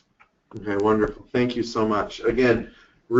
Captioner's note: voiceover